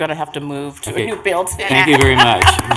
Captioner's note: multiple voices